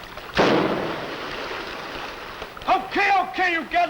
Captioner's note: splashing